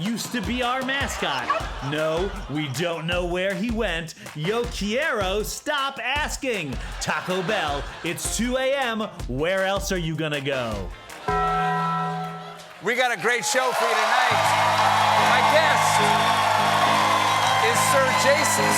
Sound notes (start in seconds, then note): 11.2 bell sounded